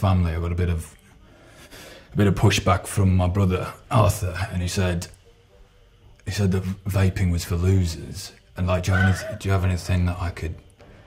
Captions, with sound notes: I got a bit of a bit of pushback from my brother Arthur and he said he said that vaping was for losers *laughing* and do you have anything that I could